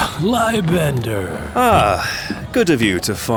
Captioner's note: sounds of sitting